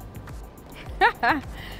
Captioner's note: laughs